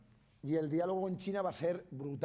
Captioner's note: speaking spanish